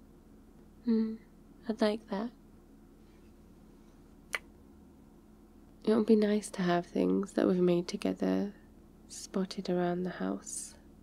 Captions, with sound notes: hmm, I'd like that *kiss* it will be nice to have things that we've made together spotted around the house